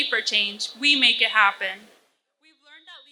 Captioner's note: mic feedback